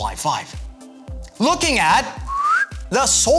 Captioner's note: whistle